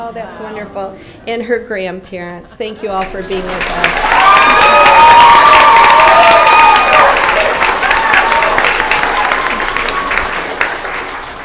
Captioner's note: applause